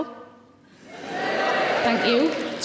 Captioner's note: audience cheers